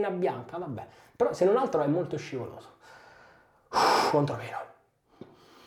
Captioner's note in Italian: sospiri